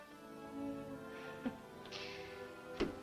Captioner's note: chuckles